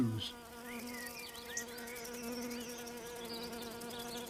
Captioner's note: buzzes